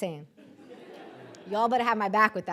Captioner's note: audience laughing